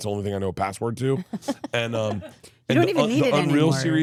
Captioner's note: laughing